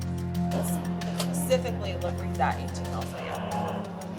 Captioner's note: inmates chatting